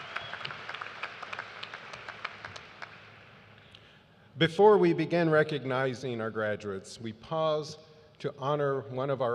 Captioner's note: applause